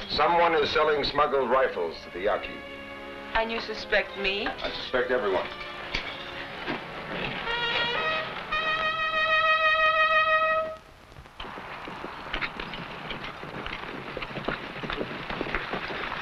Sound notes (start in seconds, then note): 7.7 trumpet blaring; 12.2 horse hooves pattering